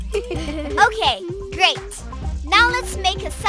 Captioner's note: chuckling